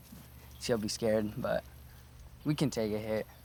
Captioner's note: none